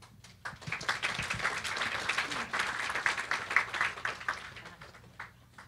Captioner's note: applause